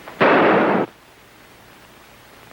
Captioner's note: gun fires